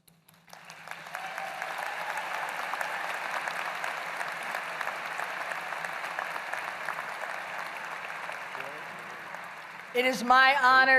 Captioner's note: applause